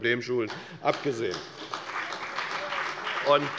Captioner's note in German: Beifall bei der FDP und der SPD